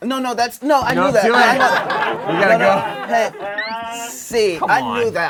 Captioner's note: laughing